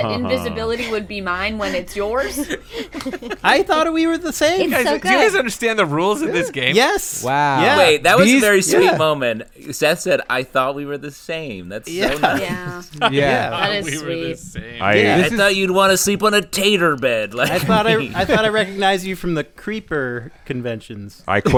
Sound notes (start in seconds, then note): 5.2 laugher